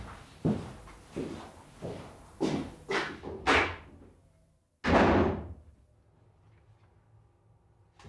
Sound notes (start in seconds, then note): 4.8 door slams shut